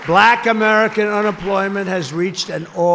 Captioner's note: applause